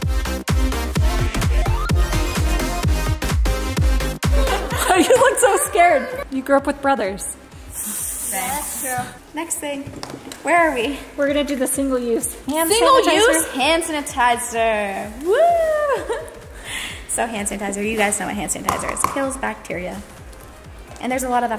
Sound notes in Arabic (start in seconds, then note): 0.0 موسيقى راقصة; 4.2 يضحك